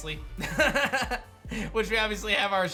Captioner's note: laughs